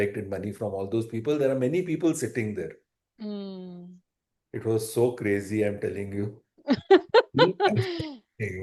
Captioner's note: laughter